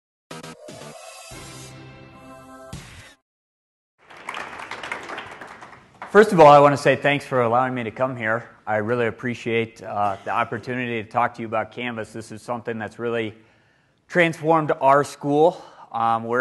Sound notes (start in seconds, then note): 4.0 applause